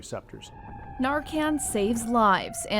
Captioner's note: sirens wailing